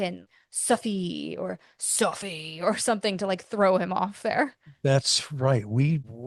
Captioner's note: accented; deep voice